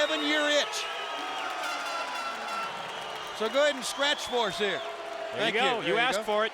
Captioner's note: applause